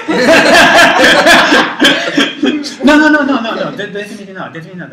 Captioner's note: laugh